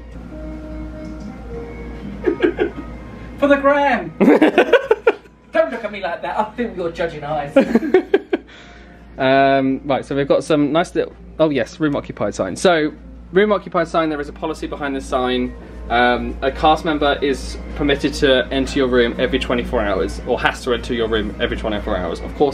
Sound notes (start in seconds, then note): 0.1 bright music continues; 4.2 laughing